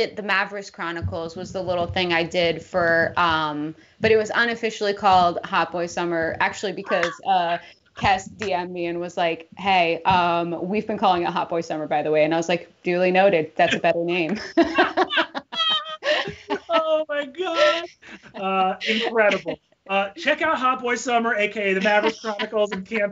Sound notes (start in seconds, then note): 14.3 both laughing